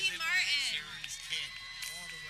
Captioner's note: people clapping